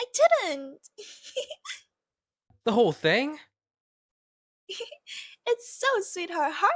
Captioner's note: giggling